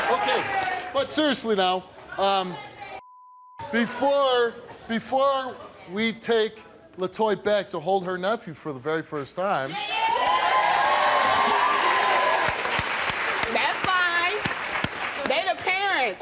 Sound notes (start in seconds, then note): 9.7 audience cheering; 10.0 audience clapping